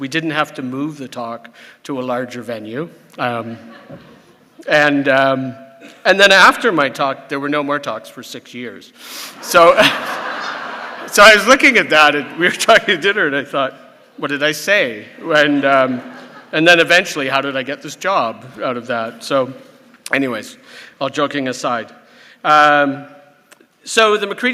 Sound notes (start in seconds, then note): 3.5 laughter; 9.4 laughter